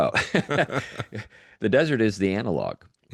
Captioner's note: laughs